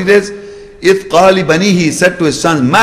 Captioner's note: Arabic